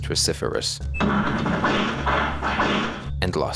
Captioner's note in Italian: suoni del gioco